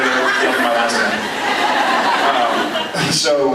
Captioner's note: laughs